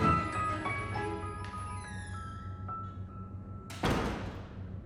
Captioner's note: door opening and shutting